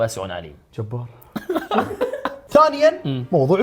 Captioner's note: laughs